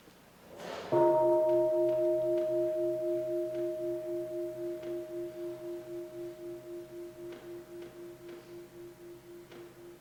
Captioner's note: bell